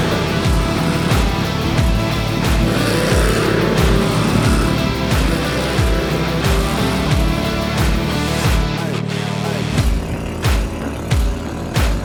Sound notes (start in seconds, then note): 2.8 engine Revving